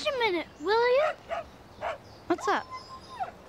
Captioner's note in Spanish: perro ladrando